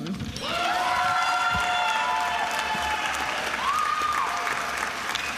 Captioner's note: attendees applauding and cheering